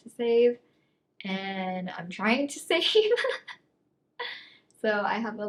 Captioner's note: laughs